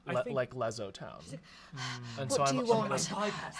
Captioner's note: breathing hard